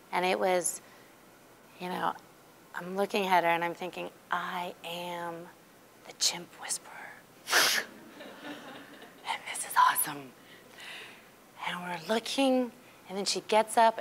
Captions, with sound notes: And it was-- I'm looking at her, and I'm thinking, "I am the chimp whisperer. (laughing) (audience laughing) "And this is awesome." And we're looking, and then she gets up,